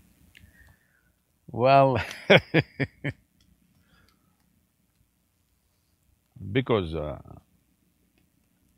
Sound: laughs

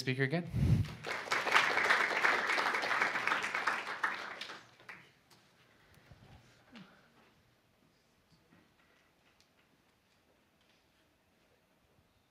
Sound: applause

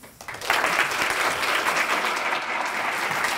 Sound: applause

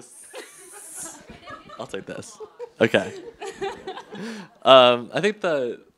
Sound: chuckles

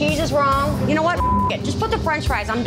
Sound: beep

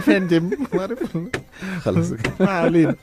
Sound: laugh!

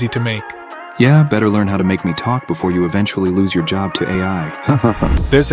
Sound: laughs

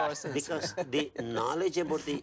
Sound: laughing

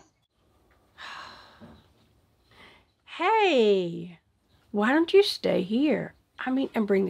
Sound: sighs

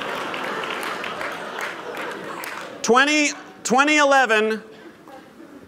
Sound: laughter

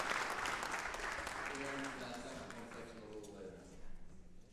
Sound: applause drowns speech

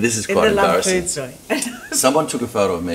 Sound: laughs

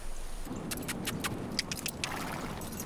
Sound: kissing; wind blowing

